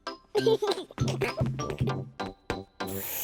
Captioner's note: giggling